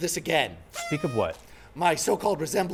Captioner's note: party horn blows